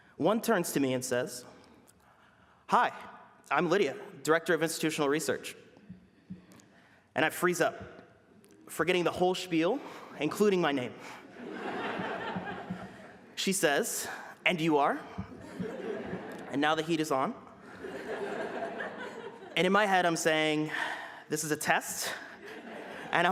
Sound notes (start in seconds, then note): 11.1 laughter; 17.6 laughter